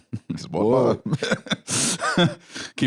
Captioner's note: laughs